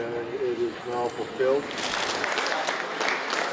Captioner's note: applause